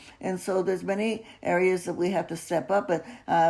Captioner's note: none